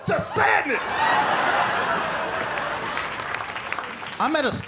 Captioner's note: laughter